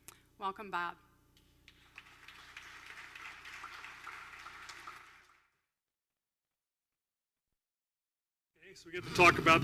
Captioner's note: applause